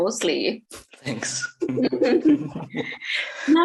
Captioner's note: giggles